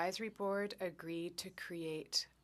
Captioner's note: speaking French